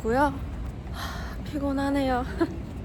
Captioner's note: sigh